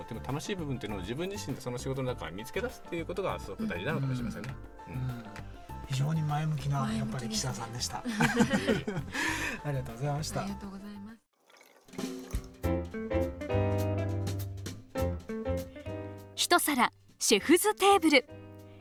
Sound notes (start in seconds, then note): 7.9 laughs